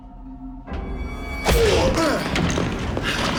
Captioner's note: both grunting